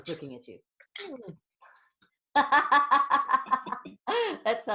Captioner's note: both laughing